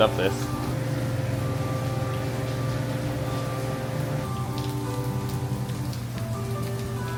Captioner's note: soft music plays; rain patters